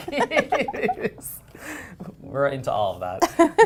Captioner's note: laughter